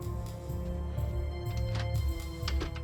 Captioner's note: none